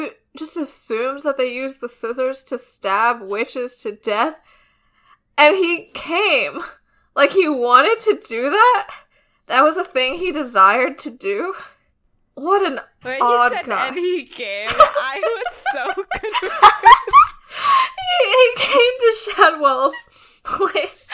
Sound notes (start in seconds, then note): 14.6 laughing; 18.6 both laughing